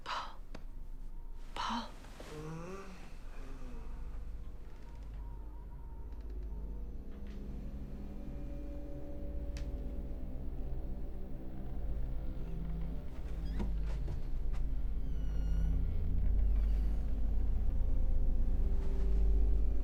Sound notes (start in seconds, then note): 2.3 Paul moans; 5.2 hinges creaking; 7.8 foreboding eerie music; 15.0 door squeaks